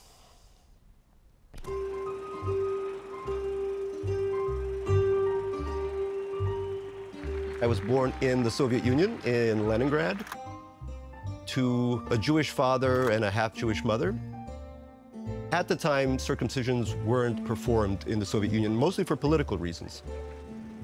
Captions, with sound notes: [light music] [audience cheering] I was born in the Soviet Union, in Leningrad, to a Jewish father and a half-Jewish mother. At the time, circumcisions weren't performed in the Soviet Union, mostly for political reasons.